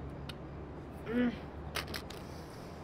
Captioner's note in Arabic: تنهد; نخر هادئ